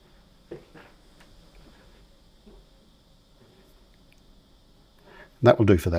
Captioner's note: silence